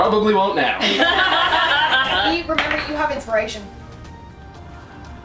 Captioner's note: laughter